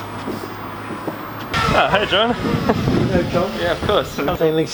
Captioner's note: chatter